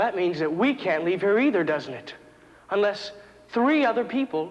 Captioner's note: none